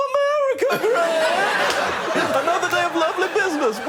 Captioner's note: laughter